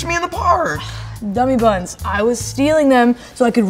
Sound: sighing

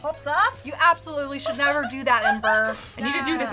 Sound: laughing

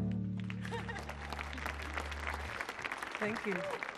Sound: audience clapping; laughs

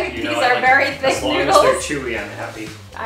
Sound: laughs

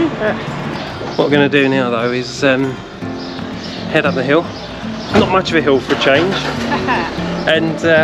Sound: laughter

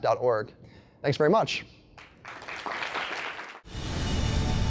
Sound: applause

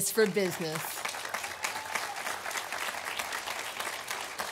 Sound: audience applauding

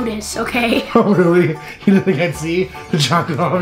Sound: laughs

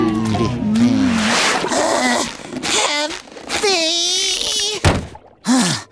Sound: grunting

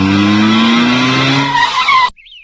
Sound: brakes squeal

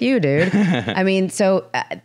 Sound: laughs

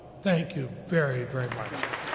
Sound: applause

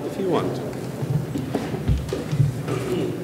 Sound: none

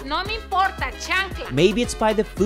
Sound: speaking Spanish

